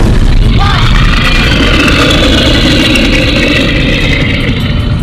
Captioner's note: bear growling